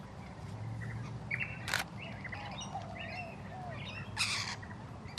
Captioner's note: camera clicking